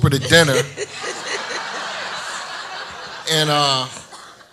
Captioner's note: audience laughs